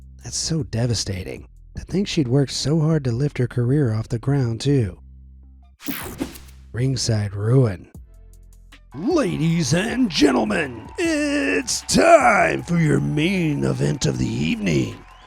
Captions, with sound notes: That’s so devastating! To think she’d worked so hard to lift her career off the ground too. Ringside Ruin (in wrestling announcer voice) Ladies and Gentlemen, iiiiiiit’s time, for your main event of the evening.